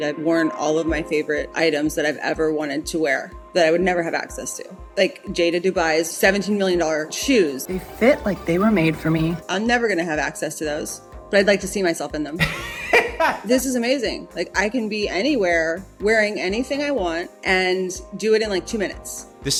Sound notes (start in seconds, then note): 12.4 laughing